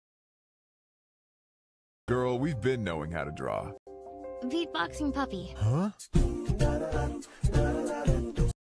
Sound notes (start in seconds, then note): 5.6 “Beat boxing puppy”